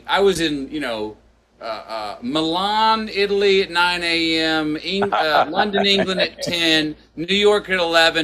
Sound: Sadhguru laughs

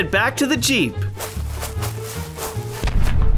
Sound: whooshing; booming

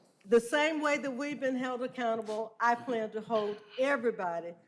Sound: laughter

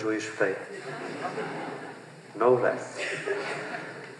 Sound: laughter

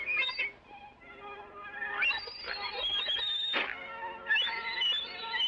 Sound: piglets squealing

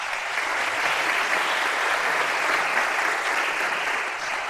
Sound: applause

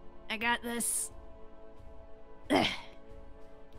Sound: grunts

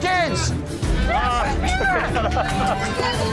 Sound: laughs; shouting

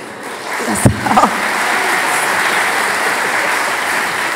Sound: audience applauding

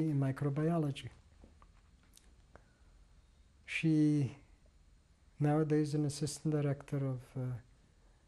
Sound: pauses for 3 seconds

